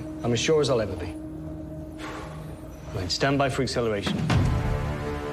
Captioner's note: sighs